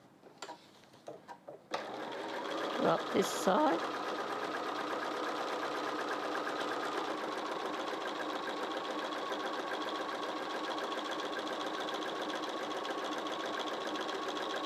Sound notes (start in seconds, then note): 6.7 sewing Machine Sounds